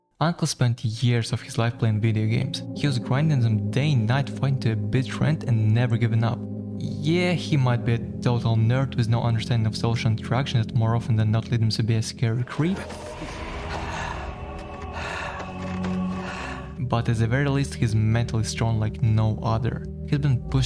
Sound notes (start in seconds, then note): 12.5 heavy breathing